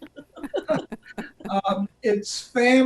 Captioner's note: laugh